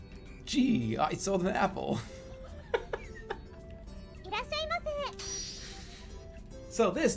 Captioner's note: laughing and giggling